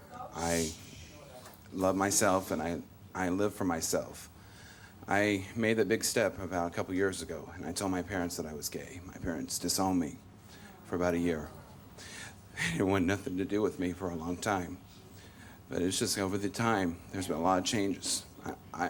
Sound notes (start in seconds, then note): none